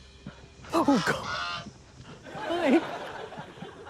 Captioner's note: duck quacks loudly